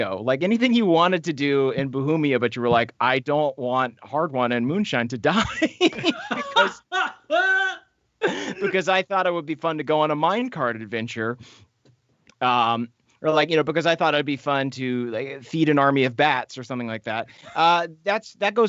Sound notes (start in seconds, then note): 5.4 laughs; 7.0 laughing